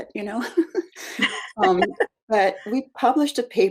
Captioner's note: both laugh